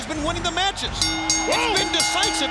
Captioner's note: bell ringing